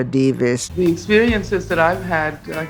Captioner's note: soundbite of archived recording